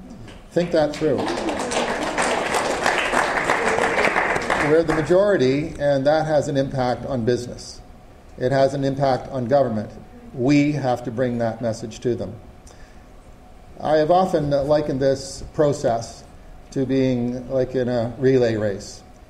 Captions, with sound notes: Think that through. [audience applause] We're the majority, and that has an impact on business. It has an impact on government. We have to bring that message to them. I have often likened this process to being like in a relay race.